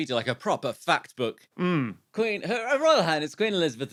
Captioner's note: none